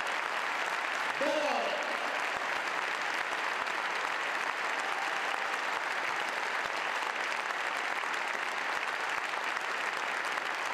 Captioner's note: applause; applause and cheers